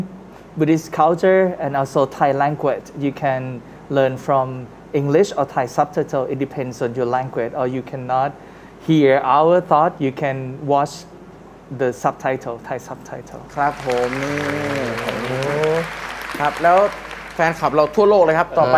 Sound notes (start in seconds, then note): 13.5 applause